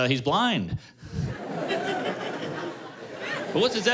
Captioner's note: laughter